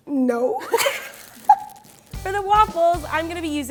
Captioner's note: both laugh